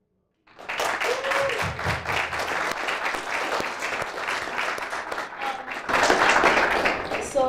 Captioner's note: applause